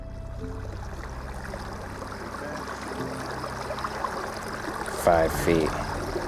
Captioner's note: water flowing gently